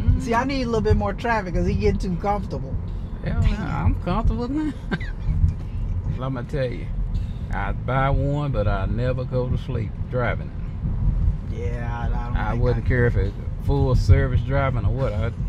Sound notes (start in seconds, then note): 5.4 laughs